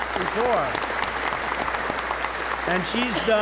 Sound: applause

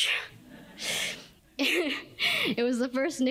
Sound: laughter

